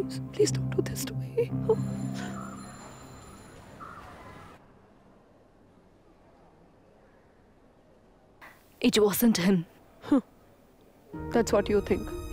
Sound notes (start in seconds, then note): 1.7 school bell ringing